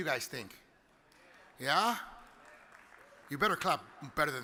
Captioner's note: audience clapping lightly